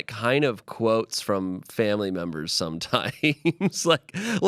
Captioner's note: laughs